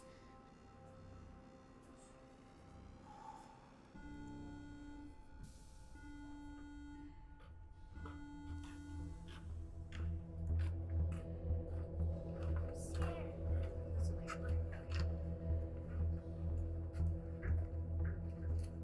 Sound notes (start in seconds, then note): 0.1 tense somber music; 4.2 steady tonal beeping; 10.5 deep ominous music; 15.5 deep ominous music